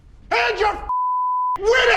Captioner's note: beep